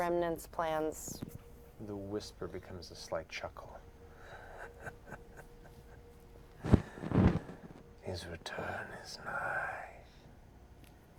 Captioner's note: chuckling